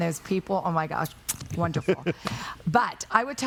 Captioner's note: kiss; laughing